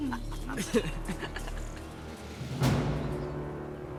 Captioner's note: laughter